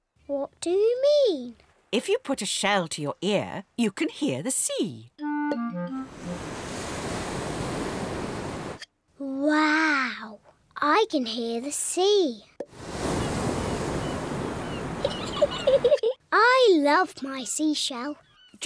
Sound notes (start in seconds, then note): 6.0 waves crash and swoosh; 12.7 wave noises; 12.8 seagulls shriek; 15.0 giggles